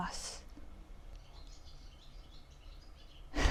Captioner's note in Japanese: 鳥の鳴き声